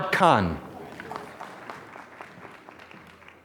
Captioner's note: applause